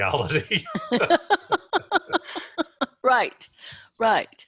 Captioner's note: laughs